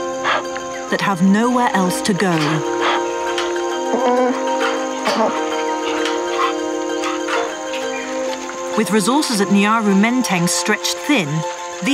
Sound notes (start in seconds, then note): 3.8 bear roaring